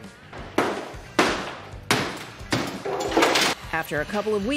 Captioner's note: hammer pounding